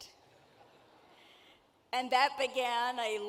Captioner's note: audience laughing